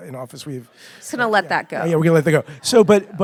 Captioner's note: audience laughing